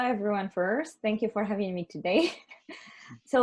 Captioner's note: laughs